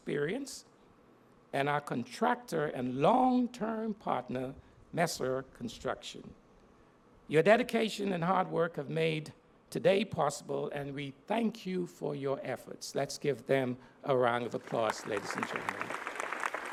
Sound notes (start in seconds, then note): 14.5 applause